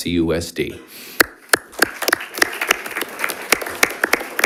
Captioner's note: audience applauding